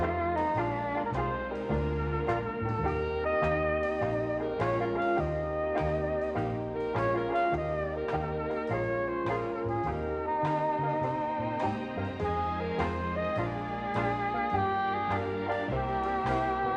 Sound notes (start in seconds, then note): none